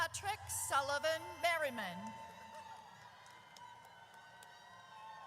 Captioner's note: audience cheers